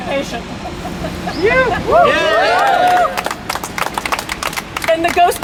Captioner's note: laughter and cheering